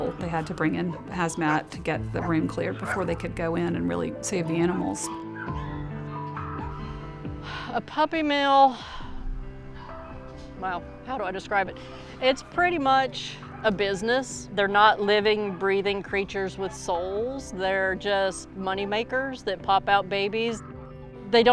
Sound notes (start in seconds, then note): 6.6 sighs